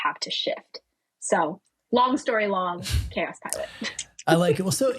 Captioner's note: laughing